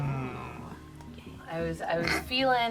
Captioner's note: group hums